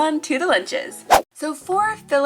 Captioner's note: whoosh